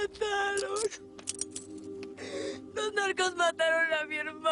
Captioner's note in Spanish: Llorando